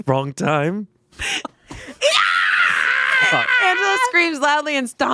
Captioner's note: screams